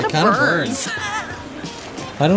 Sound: laughter

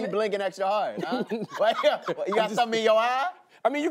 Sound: chuckles

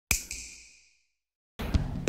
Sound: snap

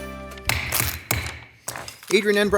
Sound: gavel thudding

